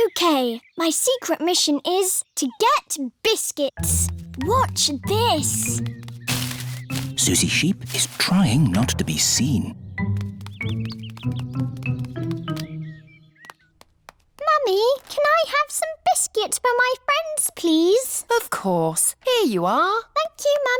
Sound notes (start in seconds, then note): none